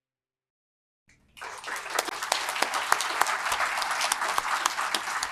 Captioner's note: audience clapping